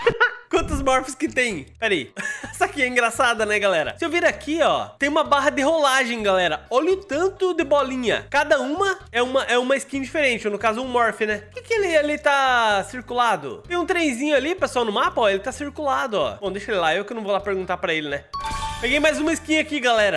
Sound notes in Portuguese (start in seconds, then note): 0.0 risos; 2.2 risos